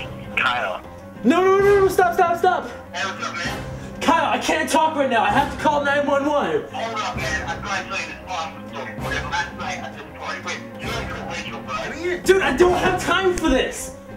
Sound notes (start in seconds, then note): 6.7 speaks on the phone